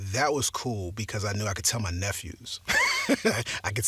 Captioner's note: laughs